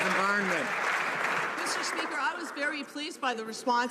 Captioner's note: some Applause